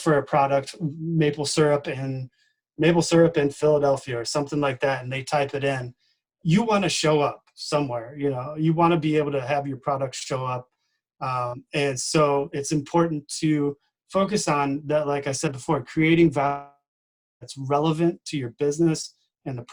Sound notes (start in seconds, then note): 16.5 distorted speaking